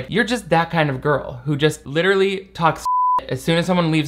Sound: beep

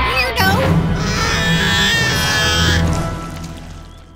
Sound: wailing

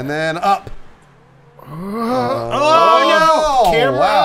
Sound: all exclaiming

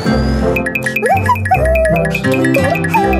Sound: Connie Cockroach humming

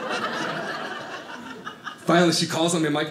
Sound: audience laughing

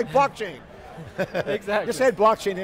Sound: laughs

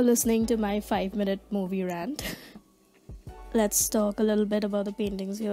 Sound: giggles

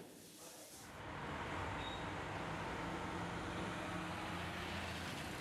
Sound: urban noises

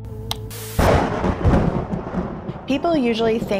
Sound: thunder rumbling

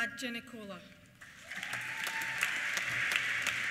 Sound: applause; cheers

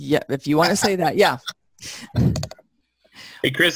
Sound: laughter

